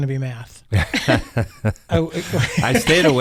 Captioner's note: laughing